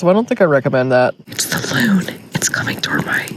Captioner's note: whispering